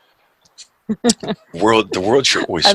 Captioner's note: laughs